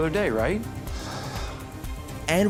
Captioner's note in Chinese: 嘆氣